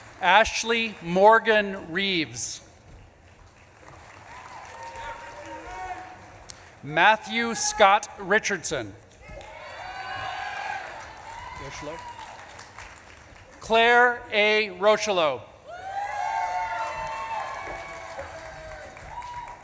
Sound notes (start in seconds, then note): 0.0 audience claps and cheers; 4.3 audience claps and cheers; 5.4 audience member shouts; 9.1 audience claps and cheers